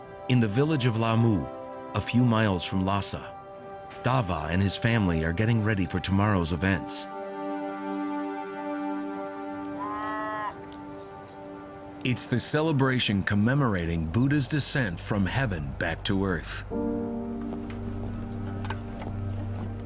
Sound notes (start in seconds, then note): 7.1 speaking in foreign language; 9.7 animal bleating